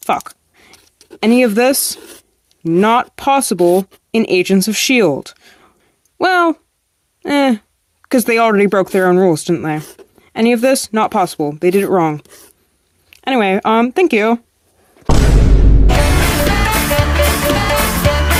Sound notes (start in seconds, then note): 15.0 rock boom sound effect